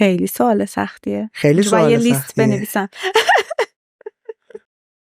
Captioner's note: laughs